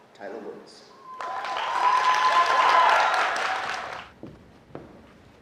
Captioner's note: applause